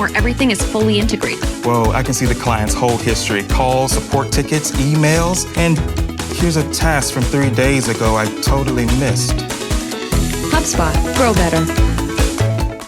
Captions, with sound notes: where everything is fully integrated. - Whoa, I can see the client's whole history. Calls, support tickets, emails, and here's a task from three days ago I totally missed. - [Voiceover] HubSpot: grow better.